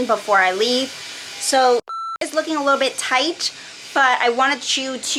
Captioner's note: beep